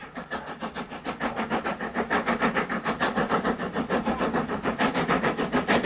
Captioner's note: train passing